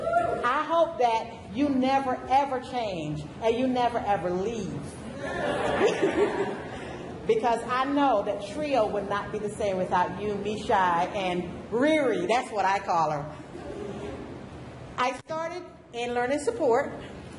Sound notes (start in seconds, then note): 3.1 audience agrees; 3.1 laughter